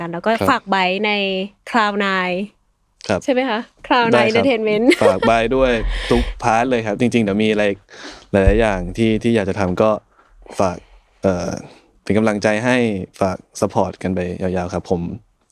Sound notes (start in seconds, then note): 4.8 laughs